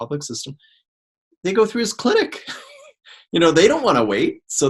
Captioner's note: laughs